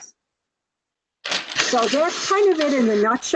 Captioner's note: paper shuffling